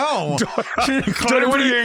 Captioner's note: both laughing